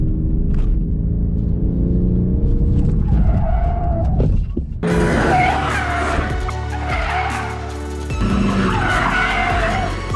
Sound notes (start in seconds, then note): 4.8 muffled tire screeching